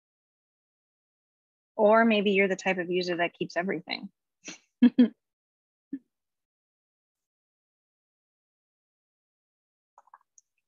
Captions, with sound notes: Or maybe you're the type of user that keeps everything. [CHUCKLES]